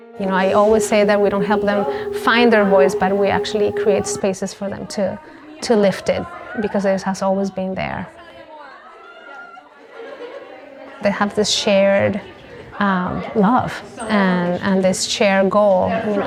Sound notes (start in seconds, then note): 8.7 background chatter